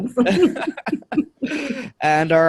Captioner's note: both laughing